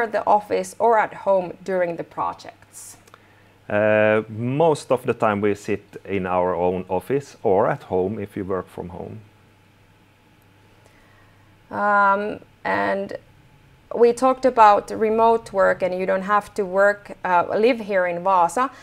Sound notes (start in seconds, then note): none